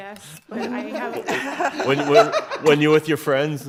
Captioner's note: all laugh